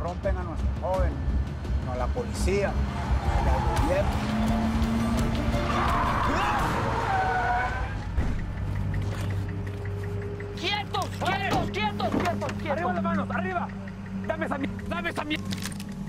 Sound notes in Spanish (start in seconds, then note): 4.2 Ruido del vehículo; 6.0 Frenazos